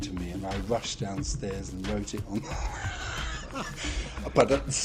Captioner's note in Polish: śmiech